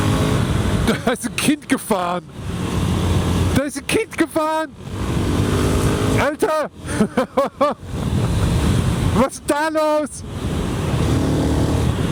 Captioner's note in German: gelächter